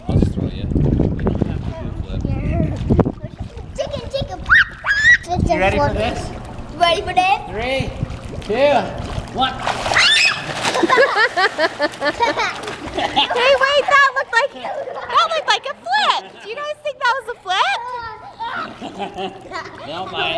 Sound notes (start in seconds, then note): 10.7 laughs; 18.2 laughing